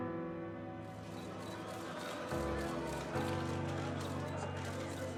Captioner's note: cameras clicking